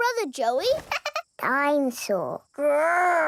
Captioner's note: chuckles